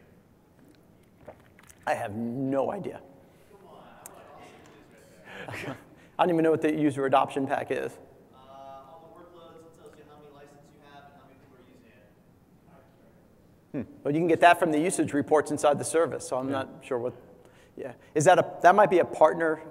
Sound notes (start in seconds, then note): 3.6 laugh